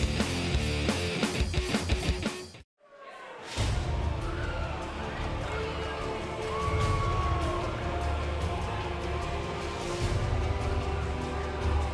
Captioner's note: crowd cheering